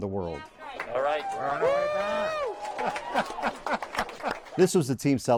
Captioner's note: everyone cheers and claps